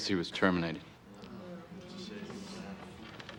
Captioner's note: people murmuring